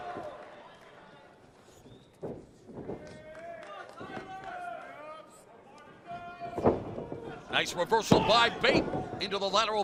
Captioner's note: crowd chatter